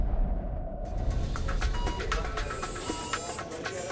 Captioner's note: medical device beeping